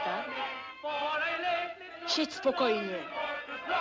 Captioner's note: speaking Foreign Language; foreign Language